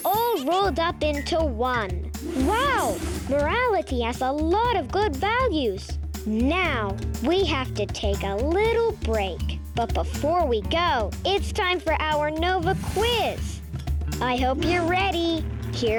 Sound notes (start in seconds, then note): 1.1 planet laughing and clinking; 2.1 air whooshing; 2.3 lively music